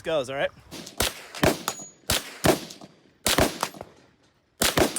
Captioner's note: gun banging